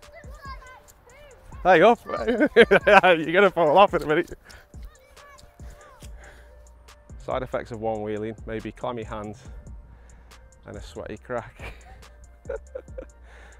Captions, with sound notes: Hey, you gonna fall off in a minute. (laughs) Side effects of Onewheeling, may be clammy hands and a sweaty crack. (laughs)